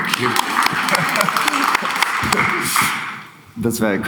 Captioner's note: applauds